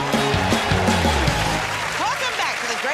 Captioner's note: cheers and applause